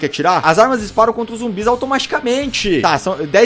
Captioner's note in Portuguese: none